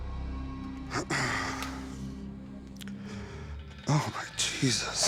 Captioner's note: clears throat